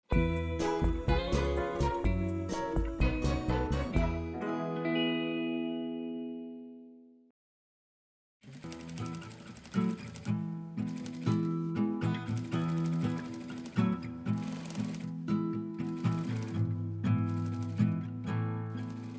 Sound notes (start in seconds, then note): 0.2 whimsical music; 8.5 gentle music; 12.1 sewing machine clicking